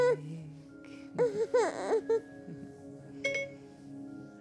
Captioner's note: Jack cooing